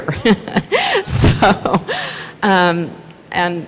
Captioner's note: laughs